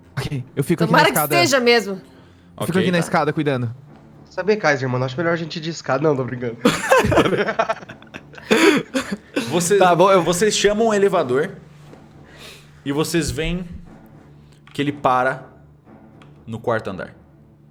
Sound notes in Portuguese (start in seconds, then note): 6.6 risada